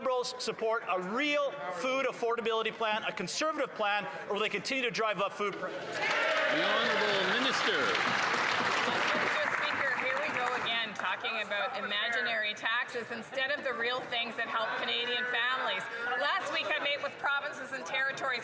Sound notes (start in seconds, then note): 12.2 some Applause